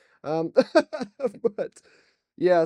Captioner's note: laughs